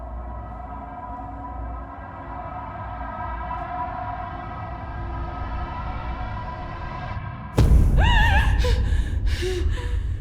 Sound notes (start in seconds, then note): 7.6 thud!; 8.3 gasps